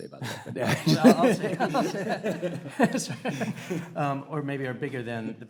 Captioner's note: panelists laughing